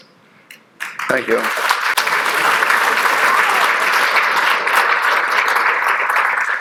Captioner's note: audience appluading